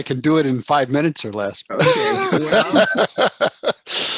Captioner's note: laughs